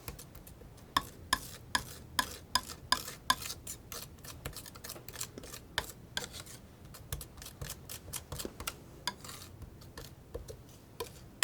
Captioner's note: tapping